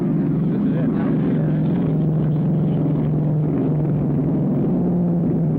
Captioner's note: engine roaring